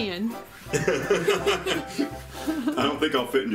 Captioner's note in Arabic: ضحك